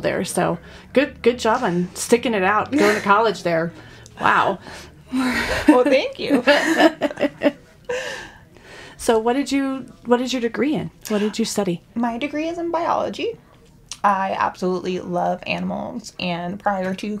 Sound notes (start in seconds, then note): 5.1 women laughing